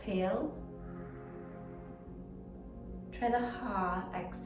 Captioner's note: pursed lips breathing